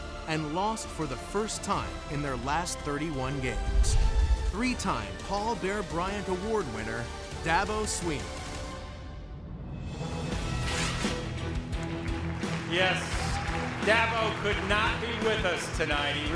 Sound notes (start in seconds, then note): 10.1 dramatic music; 11.7 audience applauds